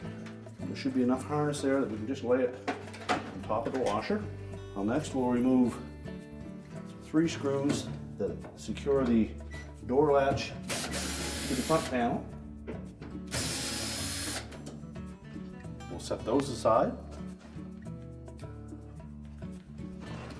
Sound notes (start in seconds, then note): 13.3 electric screwdriver